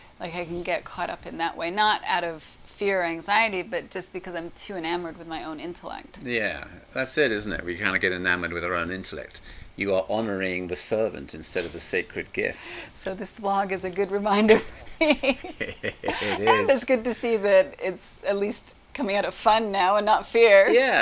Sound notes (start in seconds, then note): 14.4 chuckles